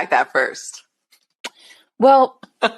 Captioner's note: laughs